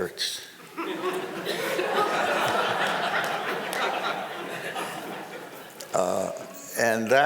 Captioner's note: crowd laughing